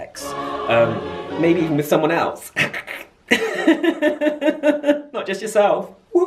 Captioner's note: snickering, laughing